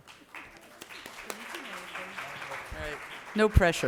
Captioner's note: applause